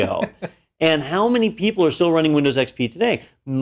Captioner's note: laugh